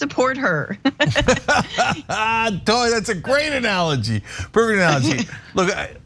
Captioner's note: laugh